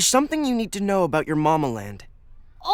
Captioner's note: none